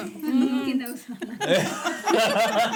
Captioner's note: laughing